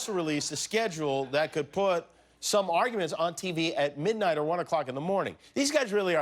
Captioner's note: laughter